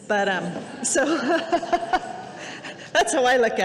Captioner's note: audience laughing